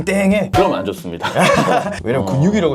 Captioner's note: laughing out loud